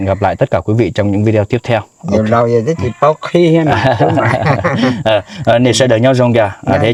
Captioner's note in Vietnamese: tiếng cười